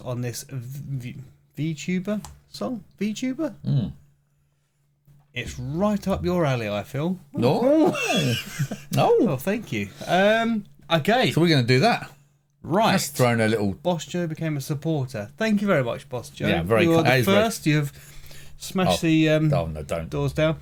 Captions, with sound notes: on this Vtuber song, Vtuber? It's right up your alley, I feel. No. (laughing) No, thank you. Okay. So we're gonna do that. Right. That's throwing a little. Boss Joe became a supporter. Thank you very much, Boss Joe. Yeah, very kind. You are the first, you have smashed the doors down.